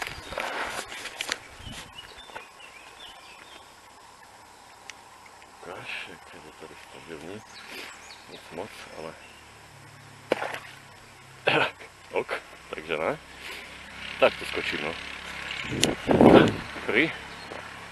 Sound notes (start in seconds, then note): 10.2 splash